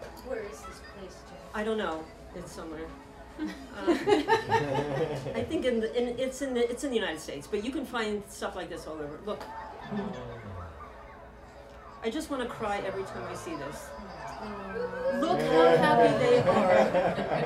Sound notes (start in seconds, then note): 3.4 laughter; 10.5 chatter